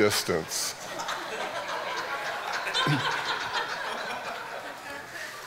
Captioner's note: audience laughing